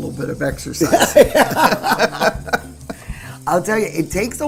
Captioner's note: ladies laughing